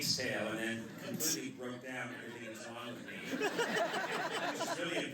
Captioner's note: laughter